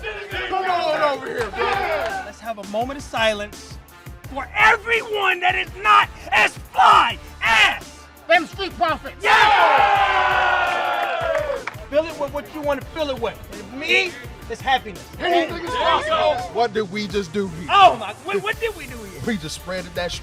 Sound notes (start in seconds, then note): 9.2 crowd cheering